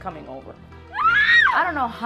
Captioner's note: woman screaming sound effect